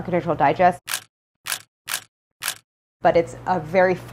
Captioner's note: shutter clicking